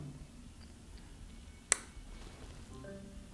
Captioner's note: click